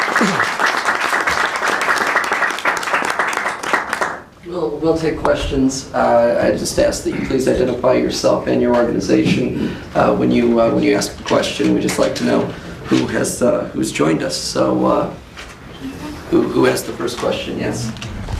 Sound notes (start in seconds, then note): 4.8 applause